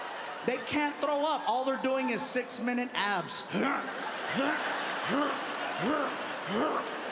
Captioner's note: audience applauding; audience laughing; grunting